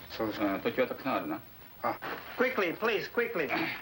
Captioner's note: speaking foreign language